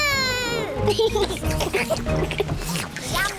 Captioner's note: all slurp